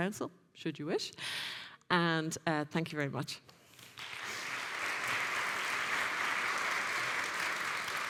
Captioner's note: audience clapping